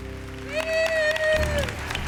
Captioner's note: applause; cheering